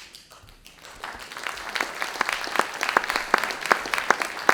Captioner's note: audience applauding